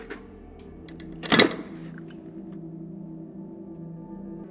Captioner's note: can clatters